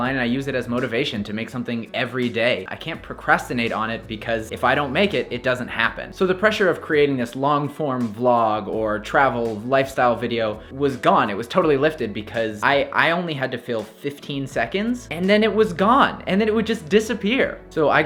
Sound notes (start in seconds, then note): none